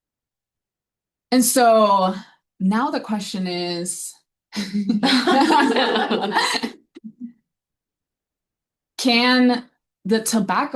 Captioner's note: audience laughing